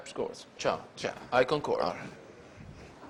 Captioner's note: Speaks Italian